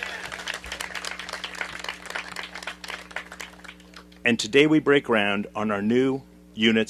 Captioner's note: applause